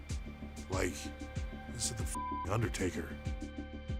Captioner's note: beep